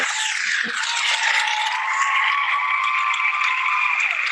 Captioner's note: audience applauds